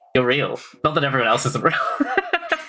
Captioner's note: laughs